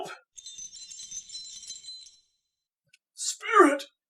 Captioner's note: bells chime